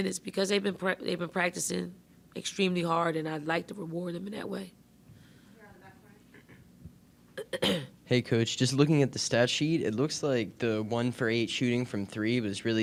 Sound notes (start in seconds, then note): 7.4 coach clears throat